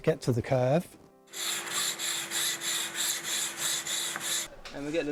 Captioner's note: saw cutting